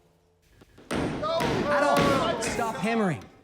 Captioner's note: Adolf hammering; attendees calling out